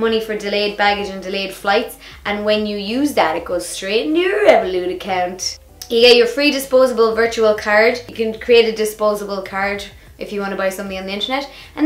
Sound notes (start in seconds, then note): none